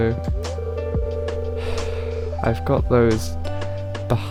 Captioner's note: sigh